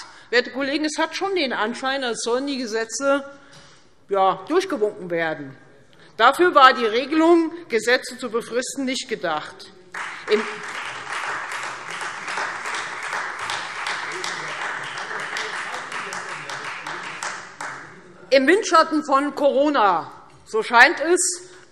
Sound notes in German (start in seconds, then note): 9.9 Beifall Freie Demokraten